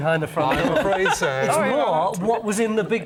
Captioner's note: laughs